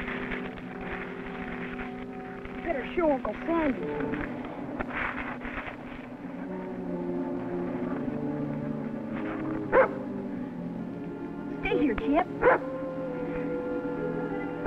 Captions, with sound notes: We better show Uncle Sandy. (barks) Stay here, Champ.